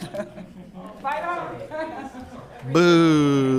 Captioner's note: group chattering and laughing